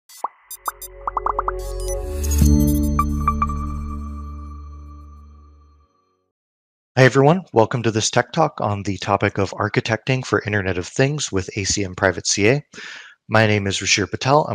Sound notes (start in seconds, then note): 1.0 word bubbles pop; 1.7 bright electronic music